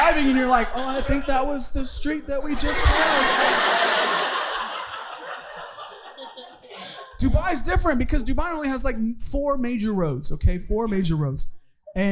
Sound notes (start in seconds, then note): 4.1 audience laughing